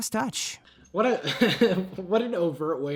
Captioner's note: laughs